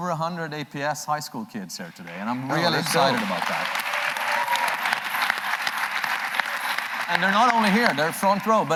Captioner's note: applause